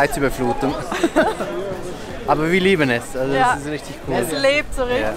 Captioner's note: laughter